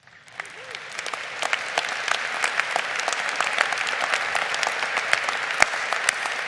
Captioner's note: crowd applauding